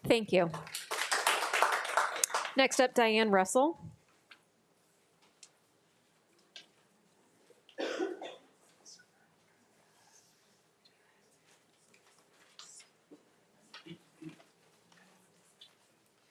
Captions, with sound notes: - Thank you. (audience applauding) Next up, Dianne Russell.